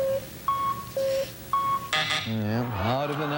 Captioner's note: buzzer